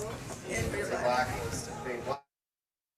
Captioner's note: indistinct chatter